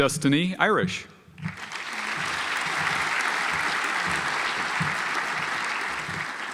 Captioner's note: audience applauds